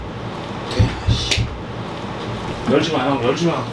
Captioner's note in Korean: 누군가의 노크 소리